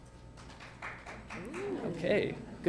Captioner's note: applause